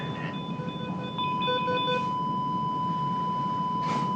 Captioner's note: machine beeping intensifies; machine beeping flatlines